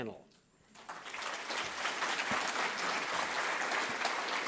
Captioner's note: applause